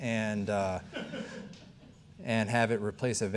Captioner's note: audience member laughing